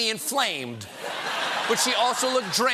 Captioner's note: laughter